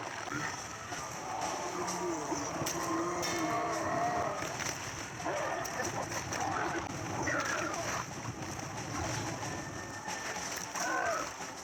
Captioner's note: cries of zombies, creepy music and fast fire